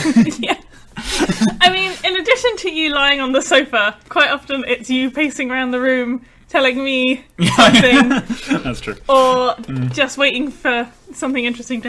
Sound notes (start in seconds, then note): 0.9 laughing; 7.4 laughing